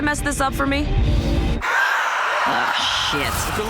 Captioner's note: vampire screams